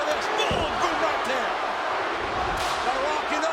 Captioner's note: spectators cheering